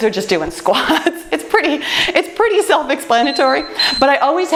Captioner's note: timer beeps